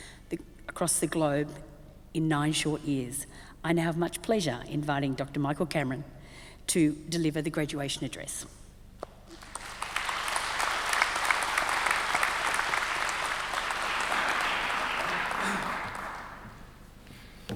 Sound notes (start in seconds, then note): 9.3 audience applauds